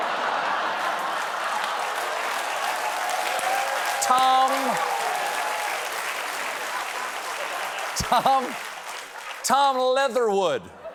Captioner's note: applause